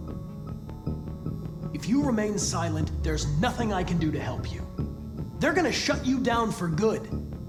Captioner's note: none